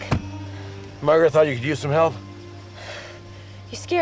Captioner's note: sighs